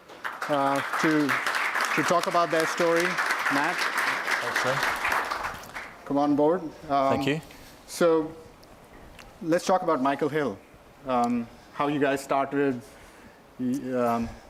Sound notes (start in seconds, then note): 0.0 applause